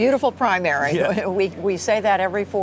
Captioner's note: laughter